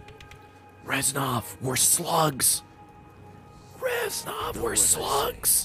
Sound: whispers

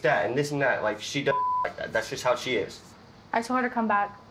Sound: beep

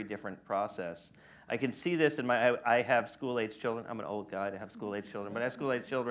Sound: laughter

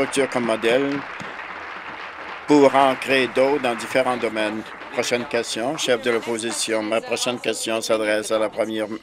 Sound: applause

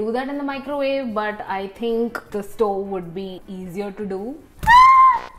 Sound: squeals

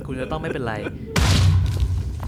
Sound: explosion

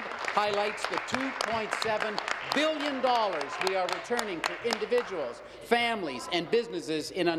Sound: applause

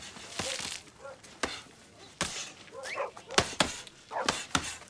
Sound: dogs barking

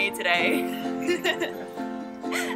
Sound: giggles

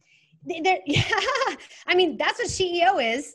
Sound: giggles

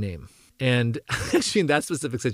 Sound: laugh

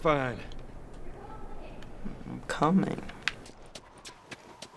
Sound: testily

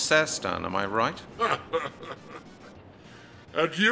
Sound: smugly laughs

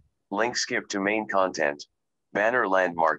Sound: recorded voice

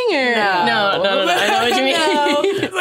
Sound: laughs

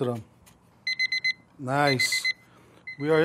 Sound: time beep

